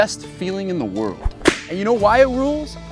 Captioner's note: whip cracking